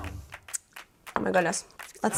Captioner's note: lips smacking